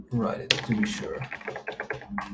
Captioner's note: keyboard clacking